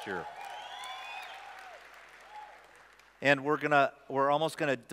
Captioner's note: applause